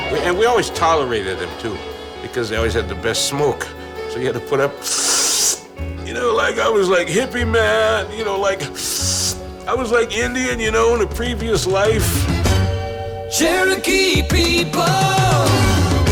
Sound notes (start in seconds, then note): 4.7 inhaling; 5.7 ragged voice